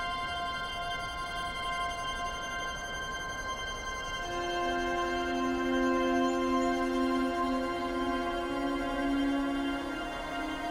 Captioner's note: gentle wind